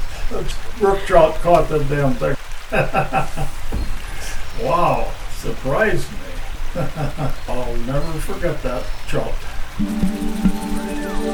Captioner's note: chuckling; chuckling; calm music